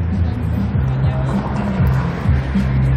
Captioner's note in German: Verkehrslärm